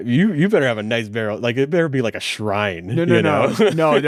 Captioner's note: laughs